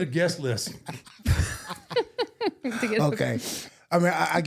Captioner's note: laughing